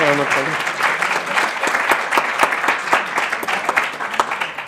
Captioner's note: audience applauding